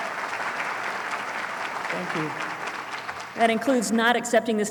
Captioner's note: applause